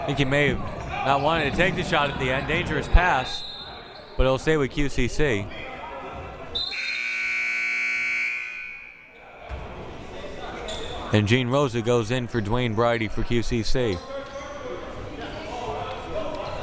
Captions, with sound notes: Think he may have not wanted to take the shot at the end, dangerous pass but it'll stay with QCC. (buzzer) And Jean Rosa goes in for Dwayne Brydie for QCC.